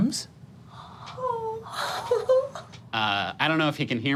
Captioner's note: gasping